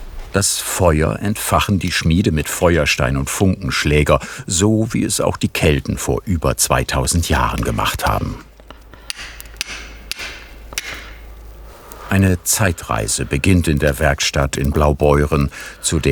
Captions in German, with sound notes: Das Feuer entfachen die Schmiede mit Feuerstein und Funkenschläger, so wie es auch die Kelten vor über 2.000 Jahren gemacht haben. (Hämmernde Laute) Eine Zeitreise beginnt in der Werkstatt in Blaubeuren